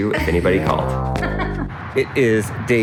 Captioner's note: laughing